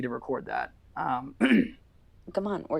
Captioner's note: clears throat